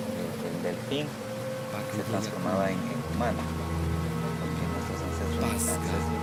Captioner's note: quechua dialect